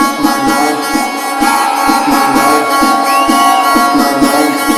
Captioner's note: crowd cheering; upbeat tech music